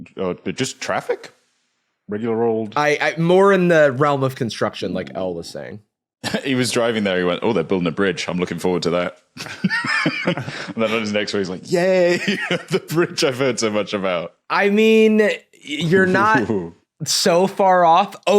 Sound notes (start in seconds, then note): 9.2 wheezes; 9.4 snickers